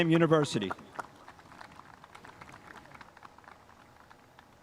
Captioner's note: spectators applauding